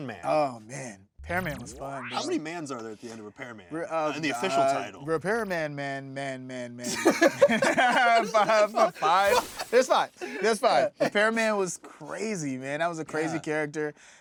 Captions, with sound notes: Oh man, Repairman was fun. How many 'mans' are there at the end of Repairman, the official title? Repairman man man man man man. [laughing] Five? There's five. There's five, Repairman was crazy, man, that was a crazy character,